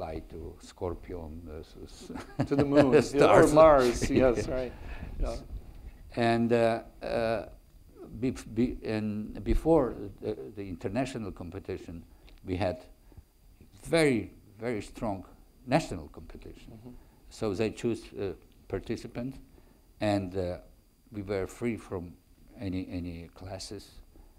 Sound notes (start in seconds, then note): 2.0 laughs